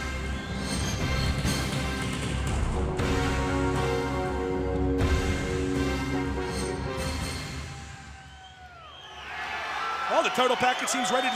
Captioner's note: crowd cheering